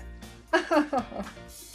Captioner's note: disheartened chuckle